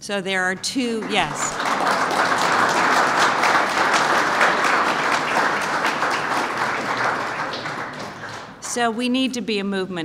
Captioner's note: applause